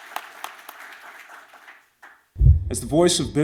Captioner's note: applause